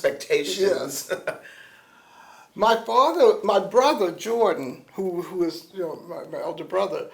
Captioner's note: laughs